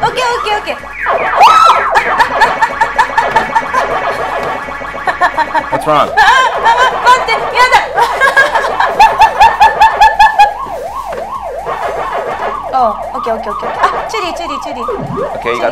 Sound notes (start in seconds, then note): 1.4 screams; 5.0 laughs; 6.2 whimpering; 7.4 speaking in foreign language; 8.2 laughs